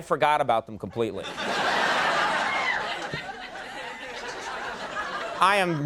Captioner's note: audience laughing